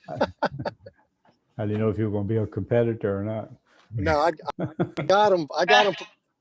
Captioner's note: chuckle